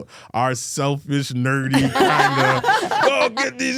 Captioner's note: Stephanie and Elyse laughing